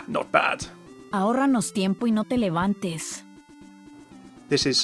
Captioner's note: Sombra speaking in foreign language